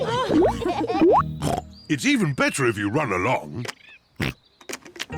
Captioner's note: all laugh; oinks; oinks